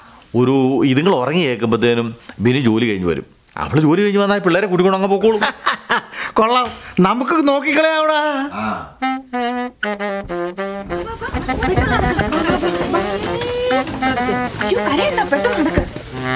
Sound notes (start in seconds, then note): 5.3 laughs; 13.1 kid cries